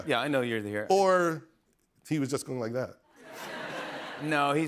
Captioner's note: laughter